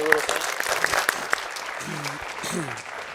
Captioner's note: applause